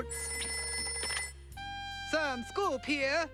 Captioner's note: telephone rings